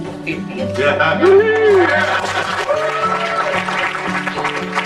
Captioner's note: group cheering